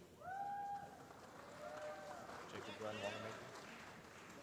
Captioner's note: applause